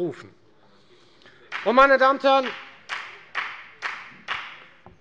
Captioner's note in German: Beifall bei der FDP